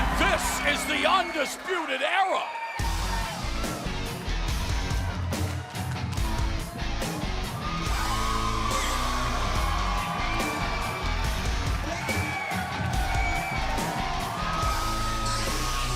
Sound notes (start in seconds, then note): 3.7 crowd cheering